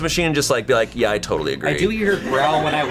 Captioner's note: colleagues laughing